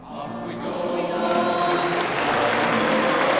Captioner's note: audience applauding